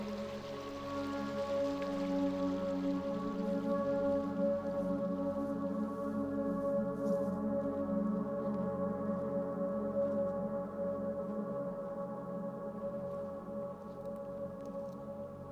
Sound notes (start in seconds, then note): none